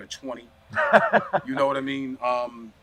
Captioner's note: laughing